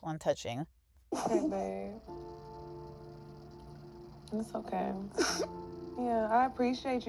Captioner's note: crying